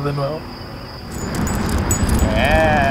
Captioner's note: harness jingles